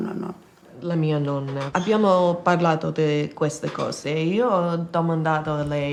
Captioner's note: speaks in foreign language